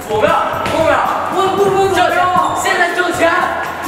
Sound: frustrated shout

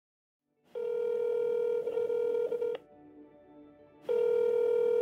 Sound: phone ringing

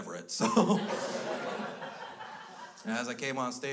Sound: crowd laughs

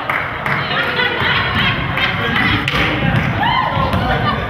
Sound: spectator claps

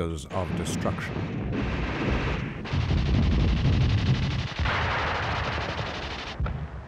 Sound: guns firing and bombs exploding

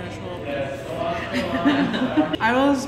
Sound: laughter

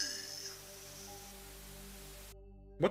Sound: Static

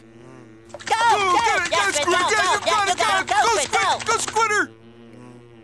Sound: cheering; buzzing

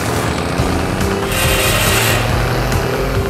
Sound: vehicle receding

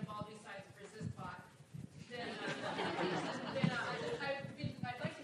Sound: laugh

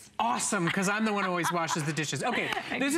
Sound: laughter

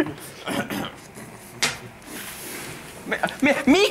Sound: clearing throat and placing a broken piece of the organ on the table

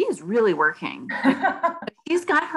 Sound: laughing

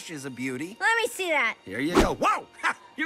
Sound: bat swings

